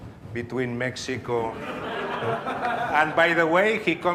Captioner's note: audience laughs